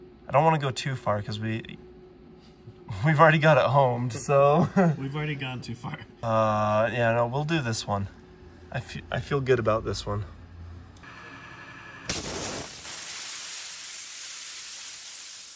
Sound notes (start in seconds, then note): 4.6 laughs; 12.1 water hisses